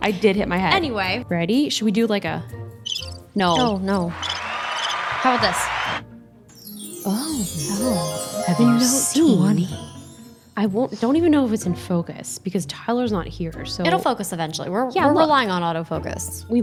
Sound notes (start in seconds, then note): 4.0 audience cheering; 6.5 magical chiming